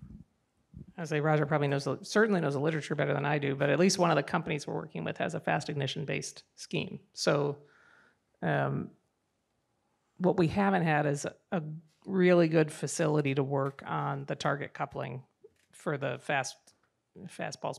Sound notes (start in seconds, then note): none